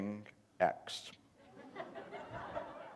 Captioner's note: laughter